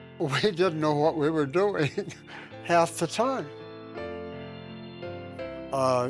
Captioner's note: laughing